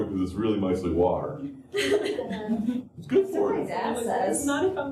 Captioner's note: laughter